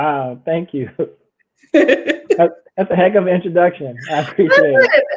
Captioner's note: laughs